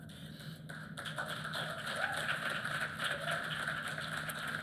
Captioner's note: applause